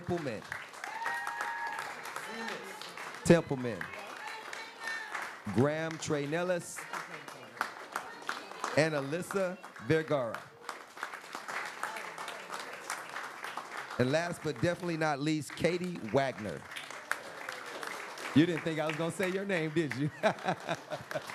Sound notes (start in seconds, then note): 0.0 applause; 7.5 applause